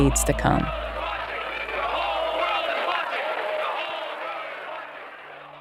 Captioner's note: soundbite of archived recording; chanting